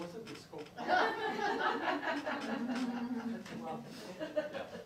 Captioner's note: crowd laughing